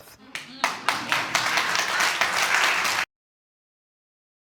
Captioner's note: audience applauds